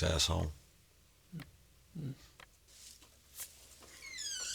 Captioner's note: door creaking